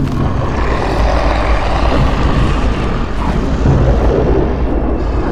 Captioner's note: intense growling